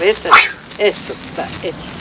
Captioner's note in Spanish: sopla fuerte